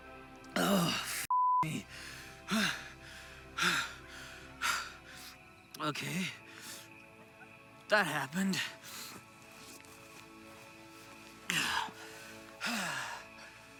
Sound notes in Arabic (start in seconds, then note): 2.2 يلهث; 9.9 موسيقى محيطة لطيفة